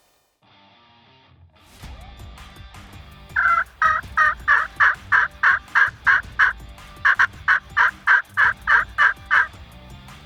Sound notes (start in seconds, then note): 3.3 turkey calling